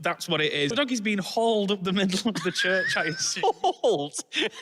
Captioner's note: wheezes; whilst laughing